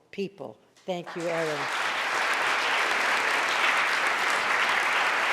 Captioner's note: audience applauding